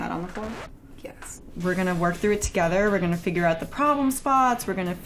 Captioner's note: record scratching